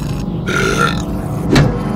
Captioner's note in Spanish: eructa